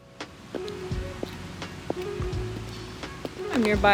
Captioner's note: heels clacking